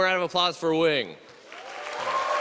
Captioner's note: applause